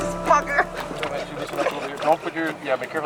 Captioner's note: laughter